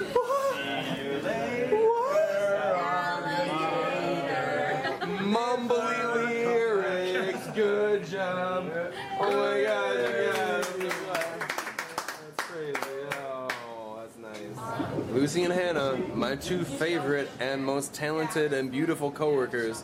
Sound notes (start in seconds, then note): 10.2 clapping